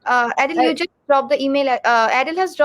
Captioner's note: chatter